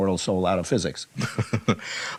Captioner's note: laughs